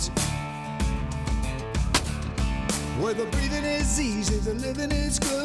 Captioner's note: gunshot